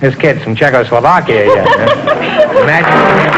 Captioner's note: giggles